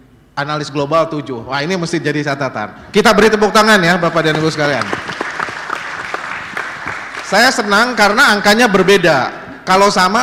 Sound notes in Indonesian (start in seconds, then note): 6.6 tepuk tangan